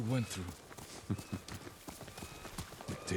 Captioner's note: laughs